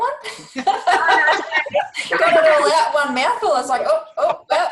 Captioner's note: the group laughs